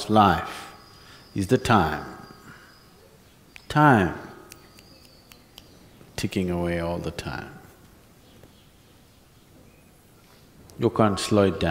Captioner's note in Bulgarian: щрака с пръсти